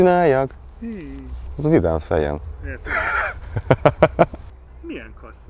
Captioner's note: chuckles